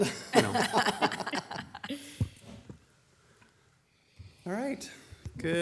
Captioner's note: council members laugh